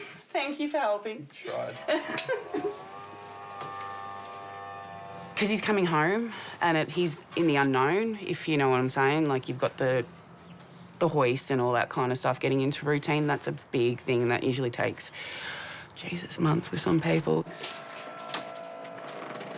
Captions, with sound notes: Thank you for helping. I try. (LAUGHS) (MECHANISM WHIRRS) Cos he's coming home, and he's in the unknown, if you know what I'm saying. Like, you've got the hoist and all that kind of stuff. Getting into routine - that's a big thing that usually takes, Jesus, months for some people. (WHIRRING)